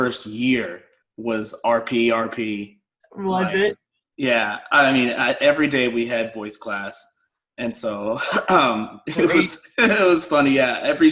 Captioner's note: Received Pronunciation